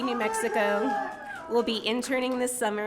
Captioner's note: audience member shouting